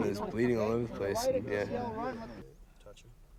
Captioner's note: voiceover